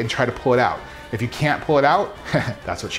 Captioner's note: snickers